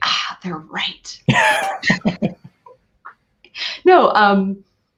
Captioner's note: laughing